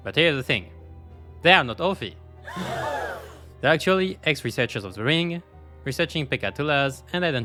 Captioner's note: gasp